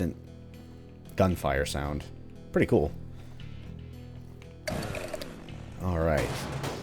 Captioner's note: Jackie revving